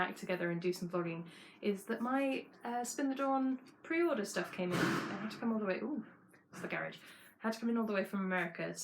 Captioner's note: crash